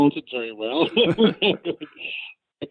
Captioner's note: laughs